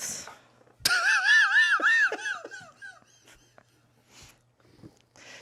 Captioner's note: everyone laughs